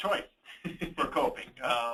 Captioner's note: laughs